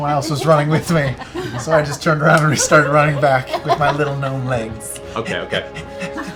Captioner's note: panting